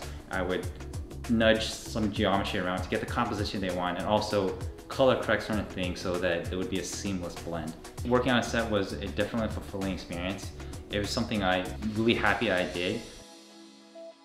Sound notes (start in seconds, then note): none